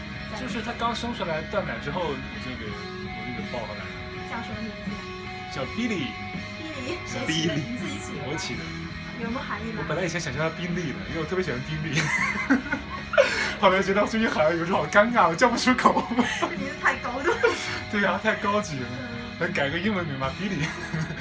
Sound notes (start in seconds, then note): 11.9 laughs; 15.8 laughs